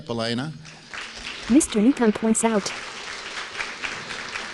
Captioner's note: applause